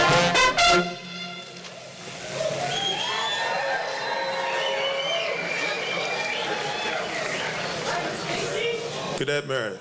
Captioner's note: applause and cheers